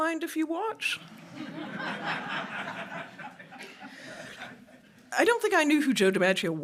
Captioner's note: laughter